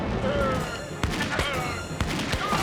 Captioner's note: guns firing; action music